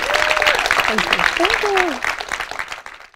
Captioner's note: applause